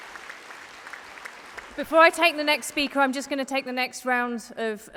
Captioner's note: applause